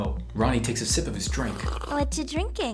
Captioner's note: sluuurp